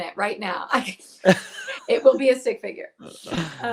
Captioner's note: laughs